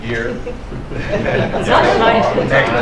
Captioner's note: laughter